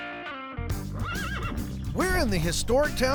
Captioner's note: horse neighs